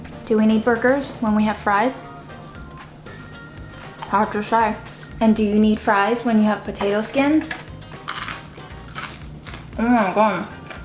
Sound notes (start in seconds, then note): 2.0 upbeat music; 8.0 crackling sound